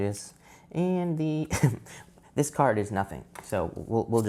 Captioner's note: laughs